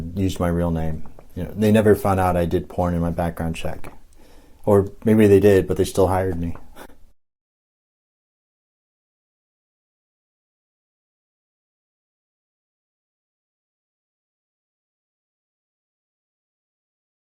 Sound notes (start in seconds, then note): 6.7 chuckle; 7.1 silence